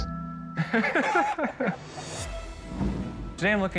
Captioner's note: laughs